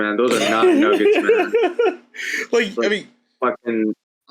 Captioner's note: laughs